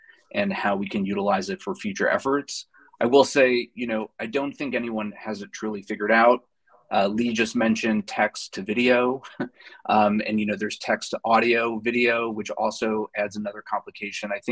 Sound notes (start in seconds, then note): 9.2 chuckles